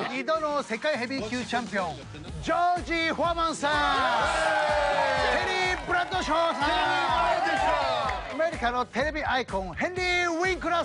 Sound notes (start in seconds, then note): 0.1 speaking Japanese; 3.6 cheers and applause; 5.6 speaking Japanese; 7.1 cheers and applause; 8.2 speaking Japanese